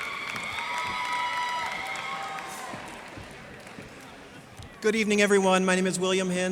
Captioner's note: cheers and applause